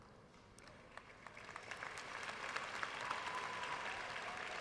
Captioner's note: audience applauding